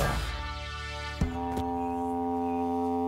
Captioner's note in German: langes Dröhnen